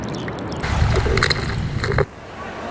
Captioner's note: static crackling